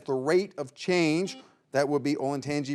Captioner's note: buzzer beeps